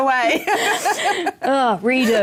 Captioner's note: laughter